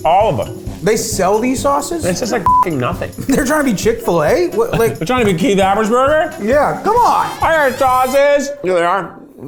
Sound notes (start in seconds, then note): 2.4 beep